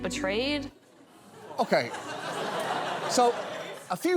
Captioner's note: audience laughs